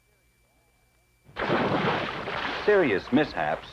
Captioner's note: splash!